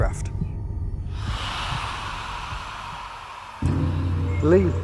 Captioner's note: screaming